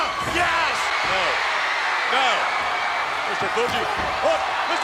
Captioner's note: audience cheers